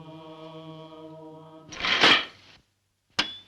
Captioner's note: loud clattering sound; clanking/tapping on window